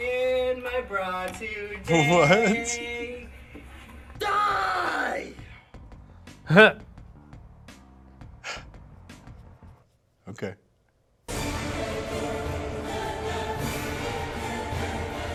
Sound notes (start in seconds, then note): 6.5 laughs; 11.3 dramatic choral music